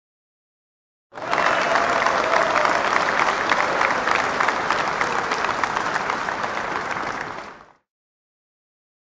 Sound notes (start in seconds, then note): 1.1 sound of clapping